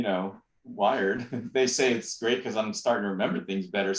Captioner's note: laughter